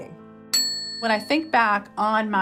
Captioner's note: bell dinging